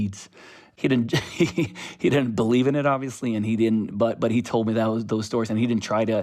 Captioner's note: laughter